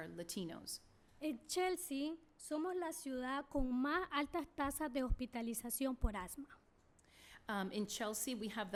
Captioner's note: speaking spanish